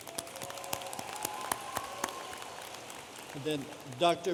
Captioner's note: audience applauding